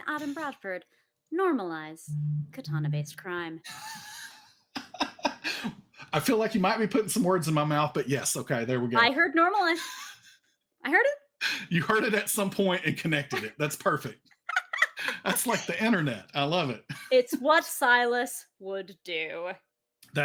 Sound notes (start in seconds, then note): 4.7 laughs; 14.5 laughing